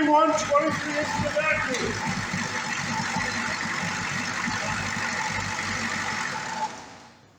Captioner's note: engine idles & stops